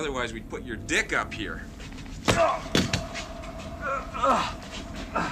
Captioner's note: man grunting